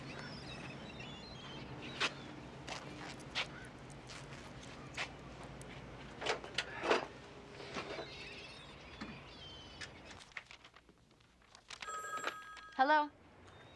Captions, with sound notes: [TELEPHONE RINGS] HELLO? IT'S ME.